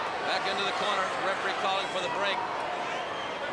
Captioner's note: crowd cheering